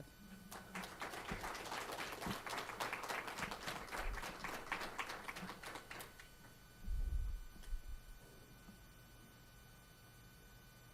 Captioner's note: audience applause